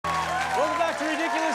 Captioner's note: audience cheers